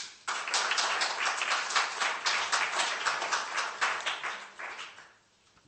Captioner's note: applause